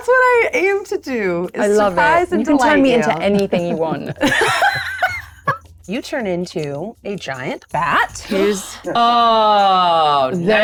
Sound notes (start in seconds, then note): 4.5 laughs